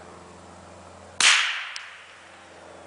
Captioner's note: gunshot